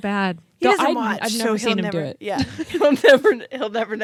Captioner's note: laughs